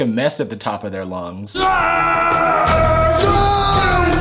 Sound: dinosaur roar

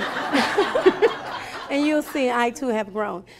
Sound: laughing

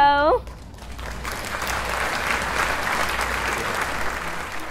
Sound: applause

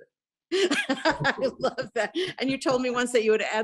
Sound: laughs

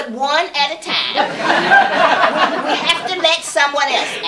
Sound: laughter

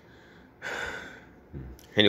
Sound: sighs

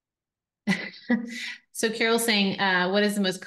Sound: chuckles

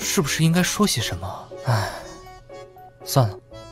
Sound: sigh

